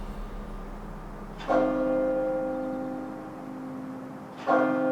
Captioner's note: bell tolls